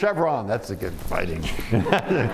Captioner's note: laughs; laughter